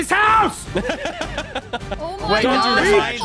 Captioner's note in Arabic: تضحك